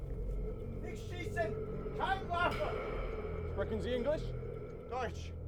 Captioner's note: speaking German